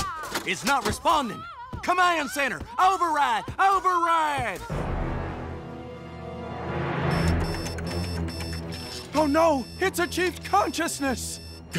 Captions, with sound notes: - It's not responding! Command center, override, override! (ominous music) (intense music) (system beeping) - Oh no, it's achieved consciousness!